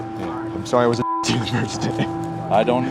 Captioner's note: beep